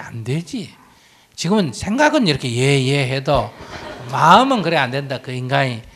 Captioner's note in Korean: 청중 웃음